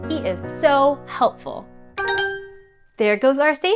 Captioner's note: chime